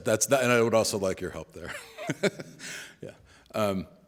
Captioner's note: laughs